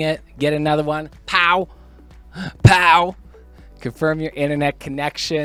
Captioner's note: pow